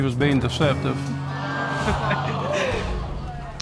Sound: audience exclaiming

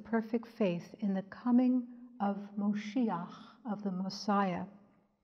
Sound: speaks in Hebrew

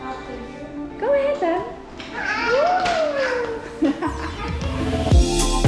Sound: laughs; upbeat music

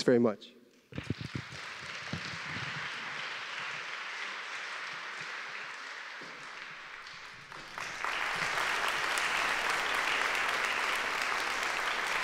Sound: applause

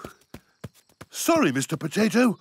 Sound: approaching footsteps

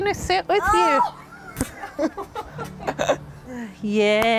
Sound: laughter

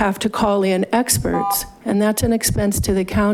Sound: buzzer chiming

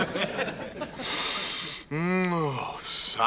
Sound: <i>sniffs

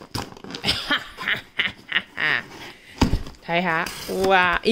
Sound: evil Laugh

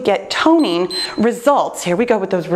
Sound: timer beeps

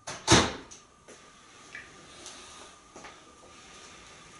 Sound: Einstein does a gentle blow with his beak

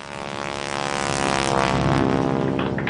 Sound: plane Engine

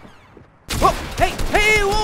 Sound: gunshots

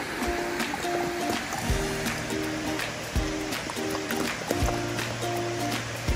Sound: lapping water sounds

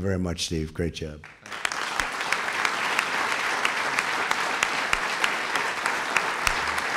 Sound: applause

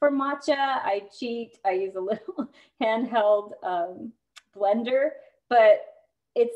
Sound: laughter

